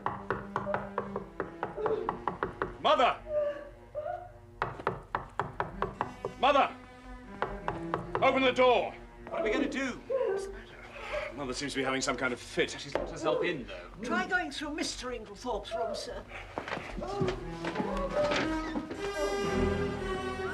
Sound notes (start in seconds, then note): 3.1 Menangis